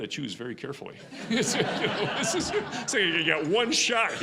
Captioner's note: audience laughing